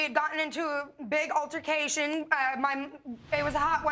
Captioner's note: stammering